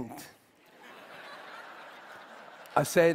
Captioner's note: Laughter; 笑聲